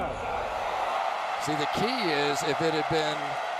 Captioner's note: cheering